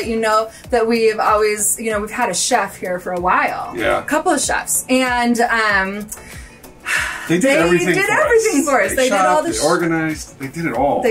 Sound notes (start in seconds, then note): 6.8 sighs